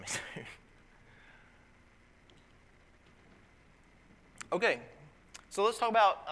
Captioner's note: laugh